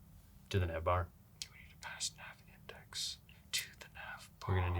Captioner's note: whispers